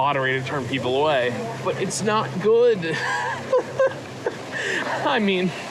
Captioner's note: sob-laughs